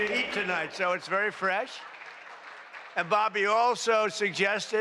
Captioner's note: applause